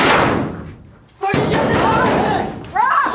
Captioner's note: door closing